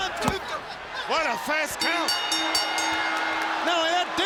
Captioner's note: bell rings